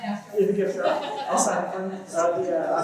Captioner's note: laughter